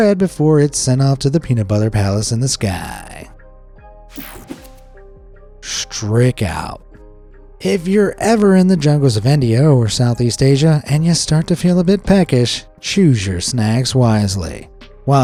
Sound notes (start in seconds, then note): 3.7 mellow music; 4.1 graphic whooshes